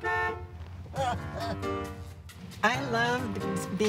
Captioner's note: car honks; laughter